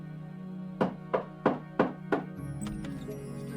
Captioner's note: knocking on door